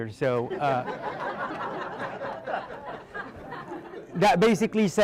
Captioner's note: audience laughing